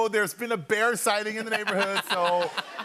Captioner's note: laughter